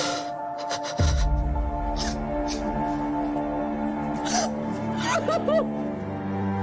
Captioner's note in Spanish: Sollozos